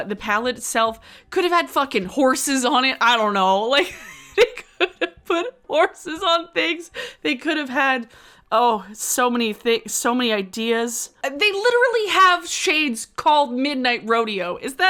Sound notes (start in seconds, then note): 3.8 laughs